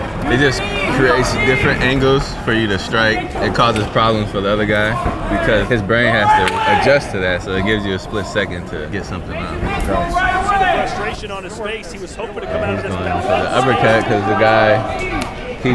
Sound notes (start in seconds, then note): 10.1 announcer speaking; 10.1 coaches chattering